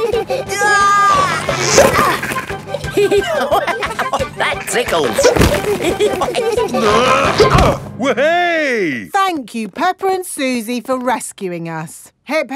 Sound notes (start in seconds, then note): 0.0 giggling; 0.0 grunting; 1.2 giggling; 3.1 laughing; 5.9 all giggling; 6.7 grunting